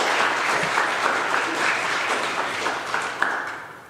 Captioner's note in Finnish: aplodeja